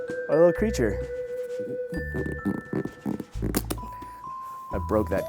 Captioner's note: pumpkin squeaking